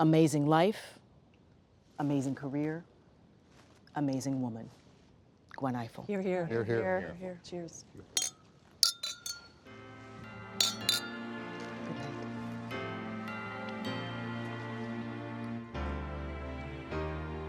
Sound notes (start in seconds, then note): 8.6 glasses clinking; 10.6 gentle music